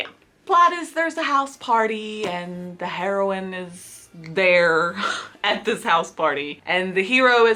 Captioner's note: laughs